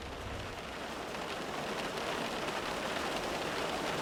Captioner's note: rain pattering